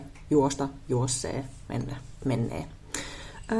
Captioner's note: none